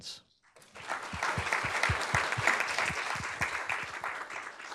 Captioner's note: audience claps